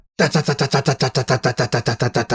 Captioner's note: throat-clear